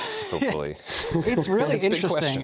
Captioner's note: laughter